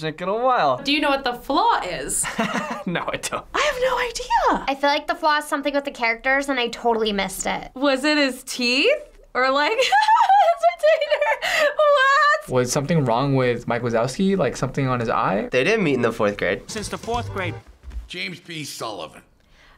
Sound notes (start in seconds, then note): 2.2 chuckles; 9.8 laughs